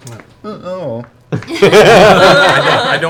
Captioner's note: all laugh